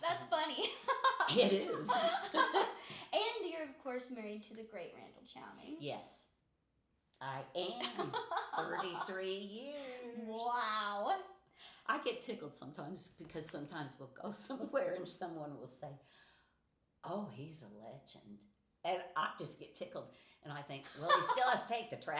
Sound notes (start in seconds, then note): 0.6 laughing